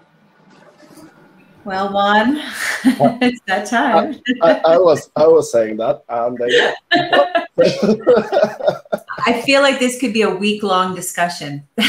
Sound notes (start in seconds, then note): 2.6 giggles; 7.1 laughs